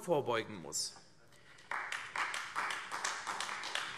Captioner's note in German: Beifall AfD